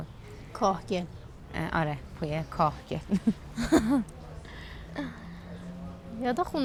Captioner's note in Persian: خنده